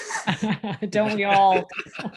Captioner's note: laughing